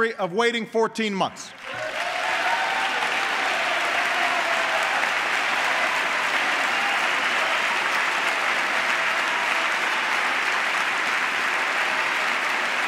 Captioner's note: applause